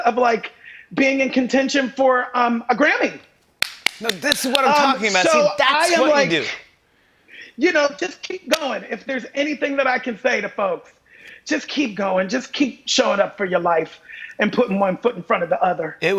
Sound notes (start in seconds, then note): 3.6 clapping